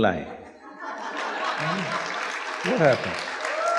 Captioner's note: laughter/Applause/Cheers